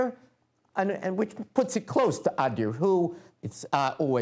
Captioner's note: non-english speech